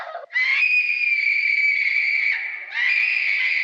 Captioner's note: screaming continues